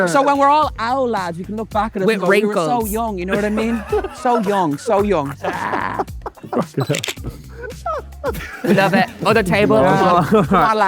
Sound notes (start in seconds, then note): 6.7 group laughing; 6.9 camera clicks